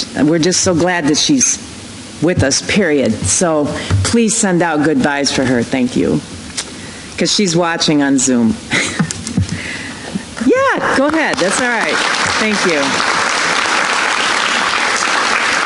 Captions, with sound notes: we're just so glad that she's with us period. So please send out good vibes for her, thank you, because she's watching on Zoom. (applause) Yeah, go ahead, that's all right, thank you.